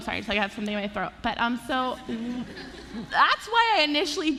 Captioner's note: laughter